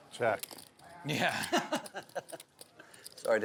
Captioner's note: laughter